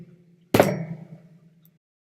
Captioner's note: bang